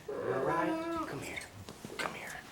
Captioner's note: Christopher whimpering